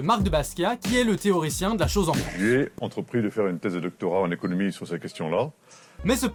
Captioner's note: video excerpt in french